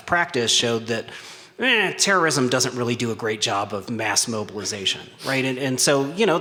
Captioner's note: hesitant sound